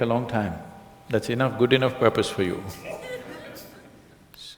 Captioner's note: laughs